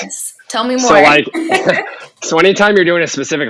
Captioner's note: laughing